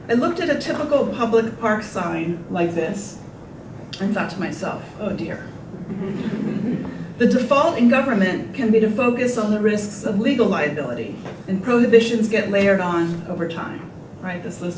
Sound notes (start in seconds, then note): 5.7 group laughter